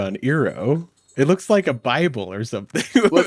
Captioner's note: laughs